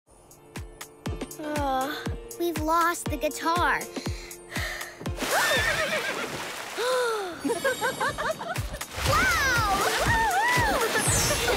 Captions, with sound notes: Ugh. We've lost the guitar. -[neighing] -[gasping] [laughing] Wow! [cheering] [laughing]